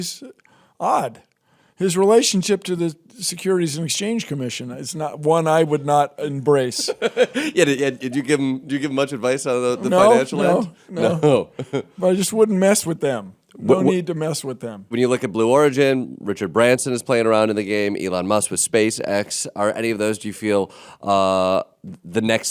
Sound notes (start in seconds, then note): 6.7 Jordan laughs